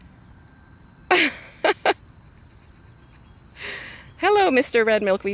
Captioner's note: laughing